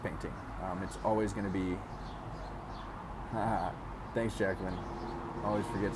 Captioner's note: laughs